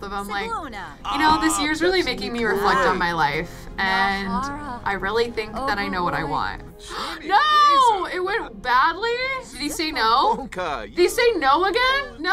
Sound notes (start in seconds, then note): 6.8 gasps